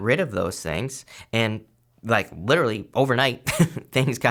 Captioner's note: laughs